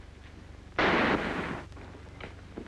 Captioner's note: gunshot